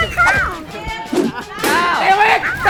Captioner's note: keeps cheering!